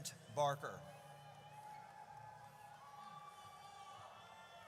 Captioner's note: audience cheers